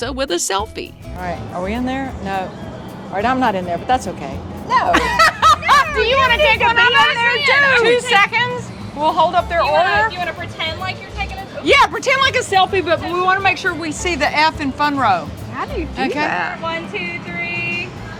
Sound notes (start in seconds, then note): 4.7 laughs